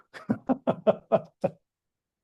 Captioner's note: laughs